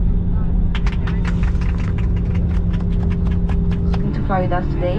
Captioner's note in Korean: 안전히 착륙하여 축하의 박수